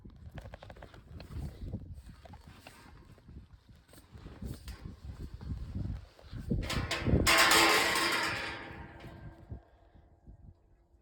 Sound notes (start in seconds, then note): 6.9 gate clatters